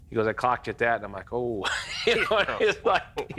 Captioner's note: laughs